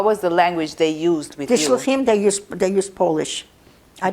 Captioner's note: hebrew